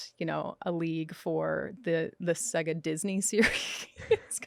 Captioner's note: laughs